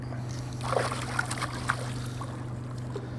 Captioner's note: splash